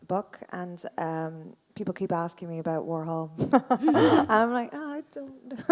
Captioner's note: laughs